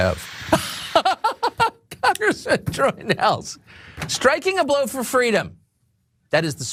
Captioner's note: laugh